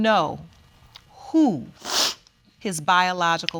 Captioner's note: sniffles